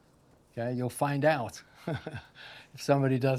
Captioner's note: chuckles